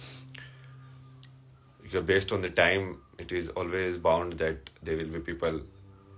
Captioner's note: नाक से की जाने वाली आवाज़